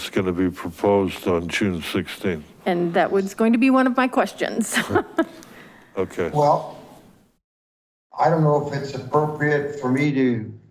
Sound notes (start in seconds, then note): 4.6 chuckles